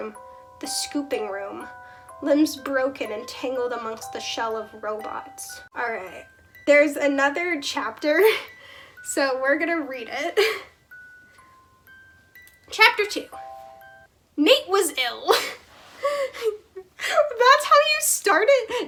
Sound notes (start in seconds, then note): 14.4 laugh